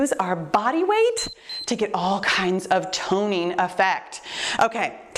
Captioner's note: timer beeps